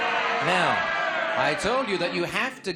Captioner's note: audience exclamations